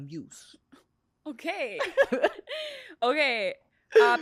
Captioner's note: laughs